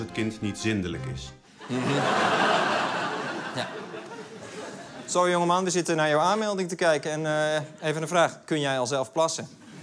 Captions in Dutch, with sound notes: *Gelach* Sorry jongeman. We zitten naar jouw aanmelding te kijken, en even een vraag: "Kun jij al zelf plassen?"